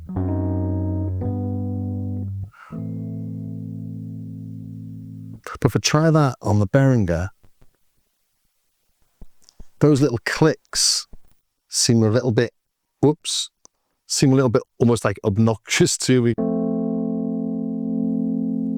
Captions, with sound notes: (exhales) But if I try that on the Behringer, those little clicks seem a little bit, whoops, seem a little bit almost like obnoxious to me.